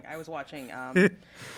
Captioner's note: laugh